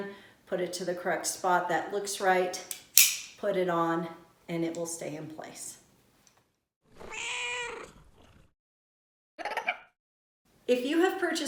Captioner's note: meow...parrot chirp